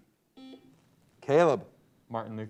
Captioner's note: buzzer beeps